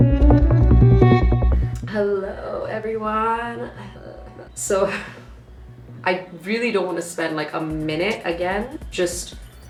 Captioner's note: sighs